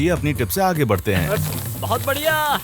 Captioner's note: air hissing; object rustling